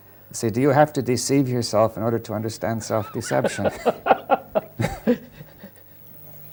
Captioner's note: laughter